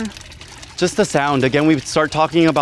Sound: water bubbling

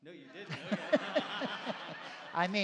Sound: laughter

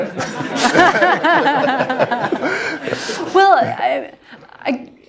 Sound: laugh

